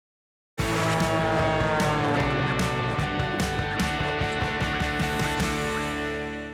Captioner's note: upbeat rock music; plane engine roaring